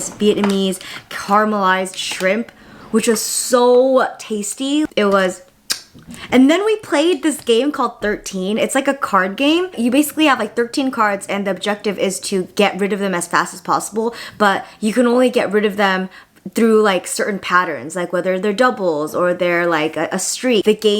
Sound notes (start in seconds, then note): 5.6 lips smacking